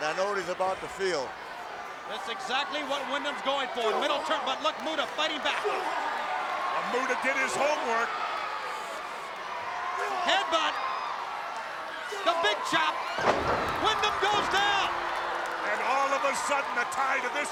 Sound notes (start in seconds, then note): 13.2 body thuds